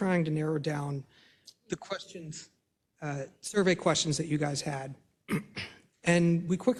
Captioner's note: cough